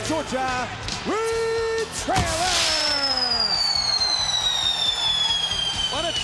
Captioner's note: pyro whistling